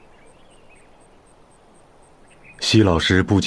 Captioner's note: gentle sound of the wind